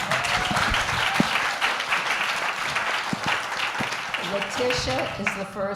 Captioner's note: applause